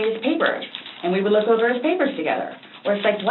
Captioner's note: papers rustling